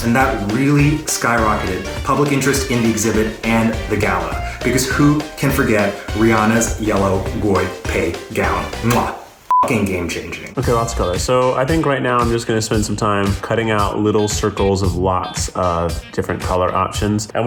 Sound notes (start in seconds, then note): 9.5 beeps